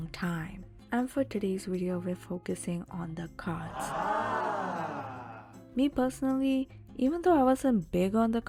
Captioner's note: audience says "ahh"